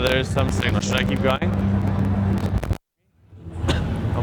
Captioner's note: crackles